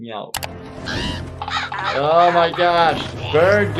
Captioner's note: bird squawking, pecking